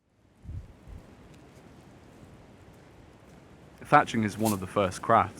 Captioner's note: wind whooshing